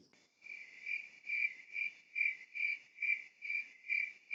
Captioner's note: crickets chirping